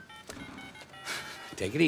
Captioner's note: phone dialing, Joe panting